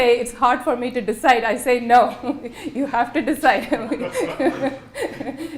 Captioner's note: laughter